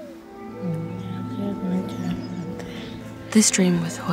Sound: woman speaking Somali

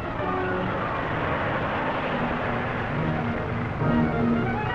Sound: car rumbling

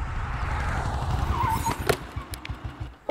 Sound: tires screeching

